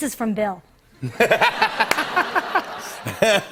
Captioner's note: laughter